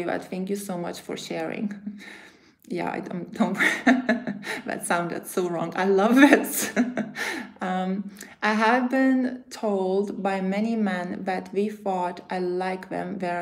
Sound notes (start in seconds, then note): 3.6 laughs; 6.2 laughs